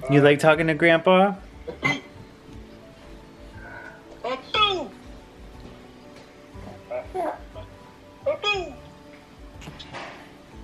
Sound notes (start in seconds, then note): 6.7 gurgles